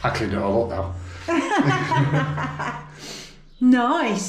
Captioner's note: laughter